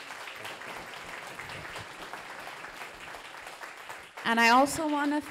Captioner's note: people applauding